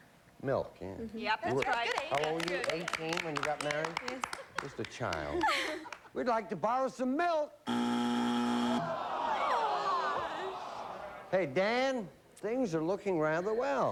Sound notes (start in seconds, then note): 7.6 buzzer